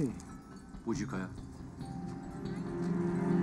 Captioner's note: speaks Mandarin